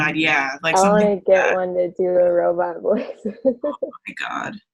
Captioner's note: laughs